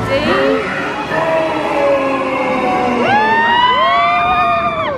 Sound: monster roars; screams

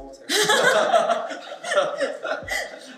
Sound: laughs

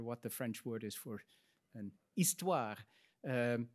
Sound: speaks in French

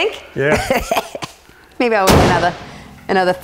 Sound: laughing

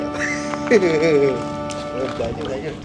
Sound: laughs

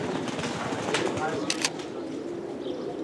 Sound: camera clicks

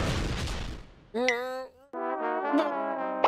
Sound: groans

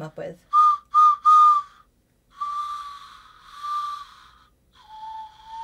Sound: coo-coo whistle plays

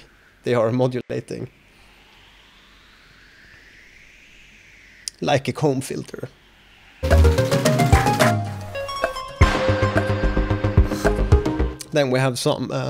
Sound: sweeping sound in background

